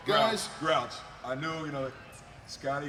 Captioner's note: crowd cheering